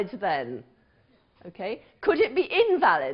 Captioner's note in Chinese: 無聲